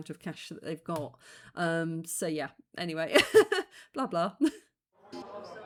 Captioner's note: laughing